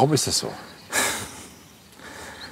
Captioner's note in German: Lautes Ausatmen